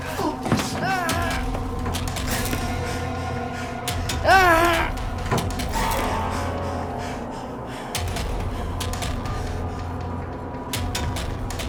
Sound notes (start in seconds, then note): 0.8 Edward groaning; 1.2 dramatic music continues